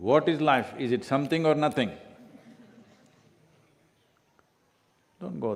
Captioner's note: few laugh